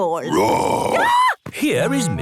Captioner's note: roar, scream